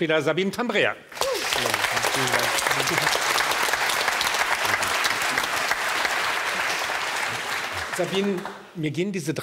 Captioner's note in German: Applaus